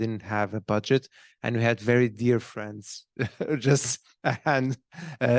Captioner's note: laughs